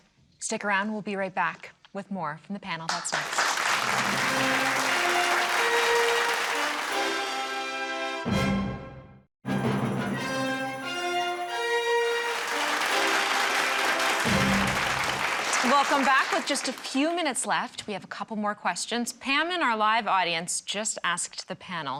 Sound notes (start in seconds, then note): 5.4 crowd clapping; 9.0 orchestrated music; 12.9 orchestrated music